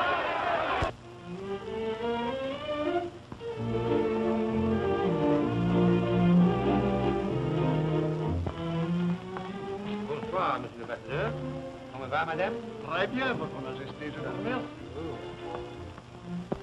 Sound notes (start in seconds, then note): 0.3 waltz music playing; 10.7 speaking french